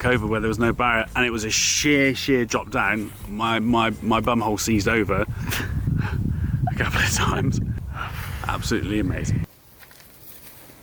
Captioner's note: laughs